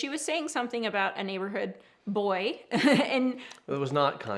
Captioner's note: chuckles